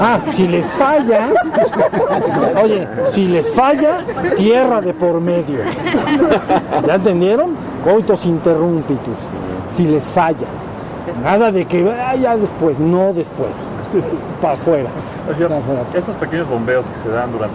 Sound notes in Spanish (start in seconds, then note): 5.7 Risas